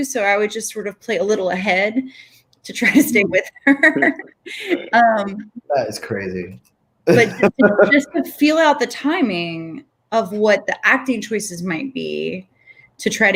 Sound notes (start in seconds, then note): 2.9 laughs; 7.1 Raúl laughs